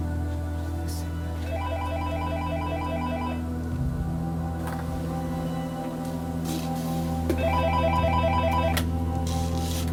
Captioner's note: office phone ringing